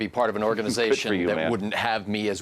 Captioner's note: laughs